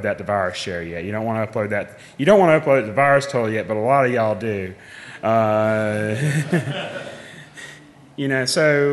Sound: laughing

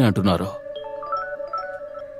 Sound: phone Ringing

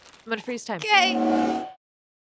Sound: time freeze sound

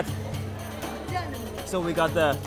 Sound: speaking foreign language

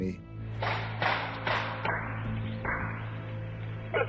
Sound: gun shooting

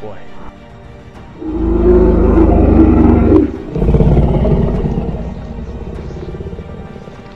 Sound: Uktena Roar

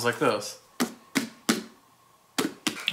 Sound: hollow slapping noises

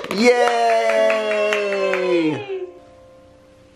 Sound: claps

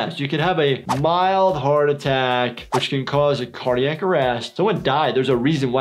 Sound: none

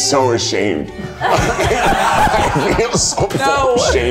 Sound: everyone laughing

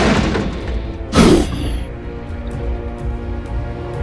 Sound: vehicle crash sound

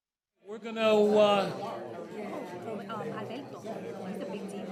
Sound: trustees chatting

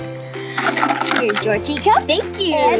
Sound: teapot clacks

